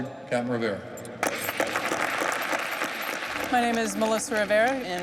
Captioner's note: applauses